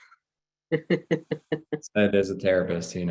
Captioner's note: laughs